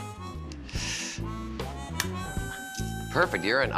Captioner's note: clicks